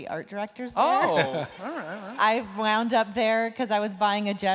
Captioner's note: laughter